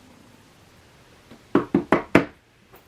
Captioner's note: knock